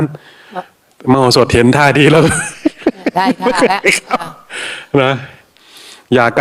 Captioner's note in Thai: เสียงหัวเราะ